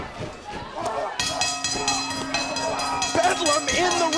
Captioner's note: bell ringing